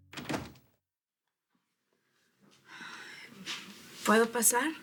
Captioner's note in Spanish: Ruido al abrir la puerta